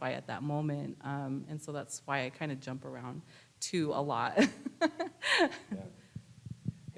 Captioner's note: laughs